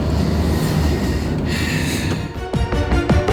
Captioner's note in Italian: sospira